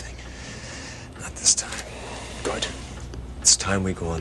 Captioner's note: шепот